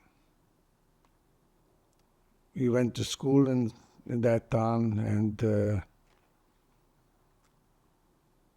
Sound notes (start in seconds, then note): 6.7 pauses 6 seconds